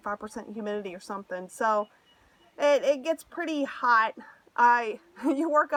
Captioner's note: laughter